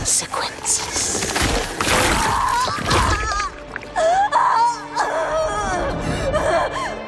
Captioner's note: Neyrelle screaming